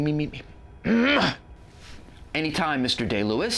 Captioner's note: clears throat again